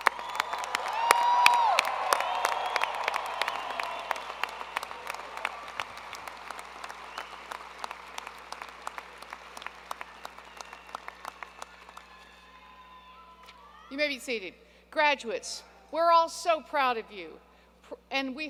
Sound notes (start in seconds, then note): 0.0 applause; 6.8 applause